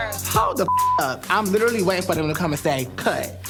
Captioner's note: beep